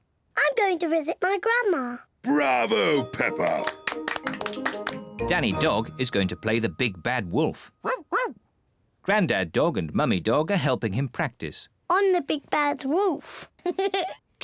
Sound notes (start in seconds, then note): 7.6 barks; 13.7 laughs